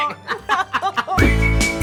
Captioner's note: laughs